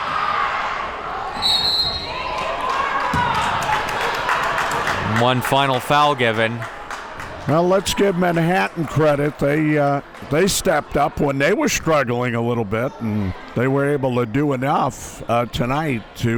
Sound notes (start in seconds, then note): 1.4 whistle blows